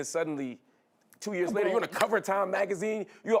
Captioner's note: laughter